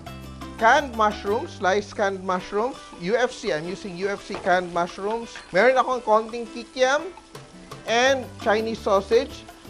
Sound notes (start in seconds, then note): 0.1 sizzle